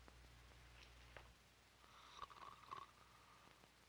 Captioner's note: Murdock snores